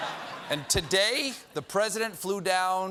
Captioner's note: laughter